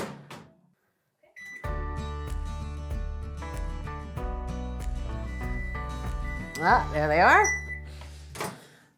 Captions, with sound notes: (cheerful music) (microwave beeping) Ah, there they are.